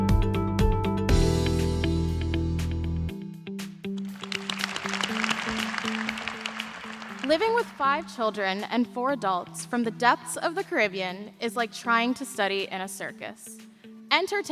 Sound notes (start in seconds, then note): 7.2 applause